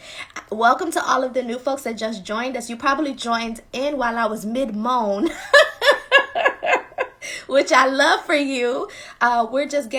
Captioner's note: laughing